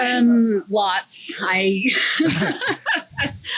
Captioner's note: laughs